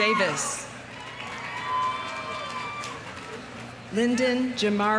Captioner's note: audience cheering; audience applauding